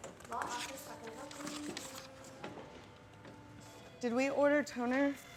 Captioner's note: people chattering; phones ringing